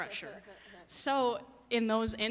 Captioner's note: laughing